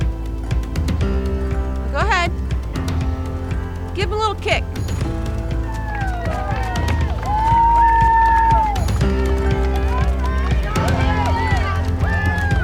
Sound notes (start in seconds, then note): 4.7 campers cheering; 5.7 campers applauding